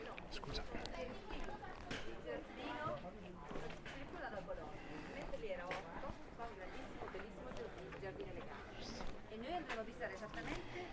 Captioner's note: background chatter